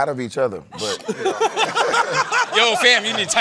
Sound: laughter

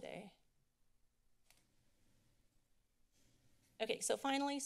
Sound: silence

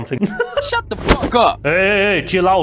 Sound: laughs; kicks

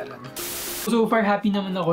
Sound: static sound

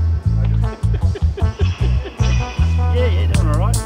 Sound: laughing

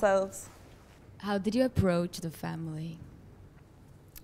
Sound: voiceover

